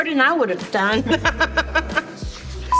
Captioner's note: laughing